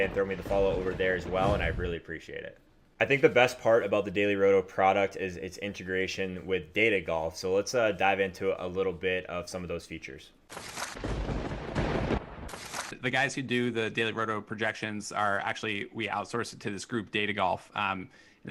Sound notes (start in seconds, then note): 10.3 papers shuffle; 11.0 thunder booms